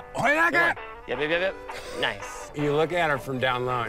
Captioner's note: yells